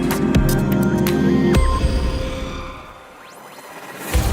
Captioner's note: electronic effects; dramatic music